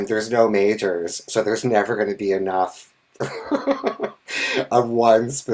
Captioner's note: laughs